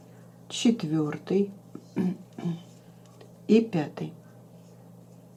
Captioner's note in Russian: откашливается